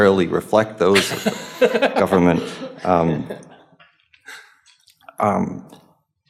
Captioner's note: panel laughing